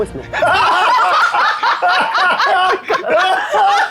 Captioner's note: players laughing